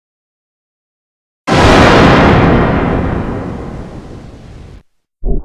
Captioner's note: GoAnimate Scary Sound Effect in G Major